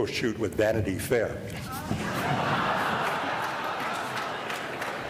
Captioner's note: applause